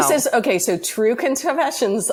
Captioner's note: laughs